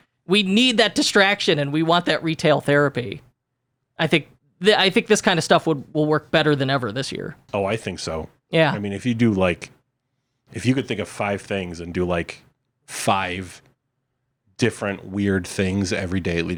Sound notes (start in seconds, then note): none